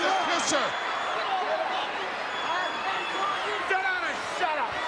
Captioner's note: crowd yelling